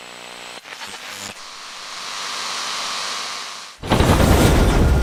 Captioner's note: static crackles and fades